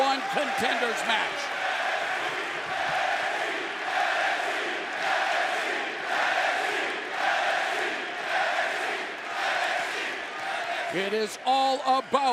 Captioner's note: crowd cheering